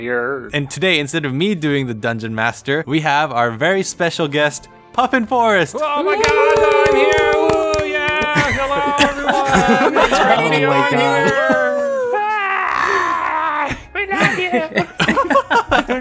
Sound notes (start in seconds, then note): 8.3 laughter; 8.3 various cheers and applause; 14.1 laughter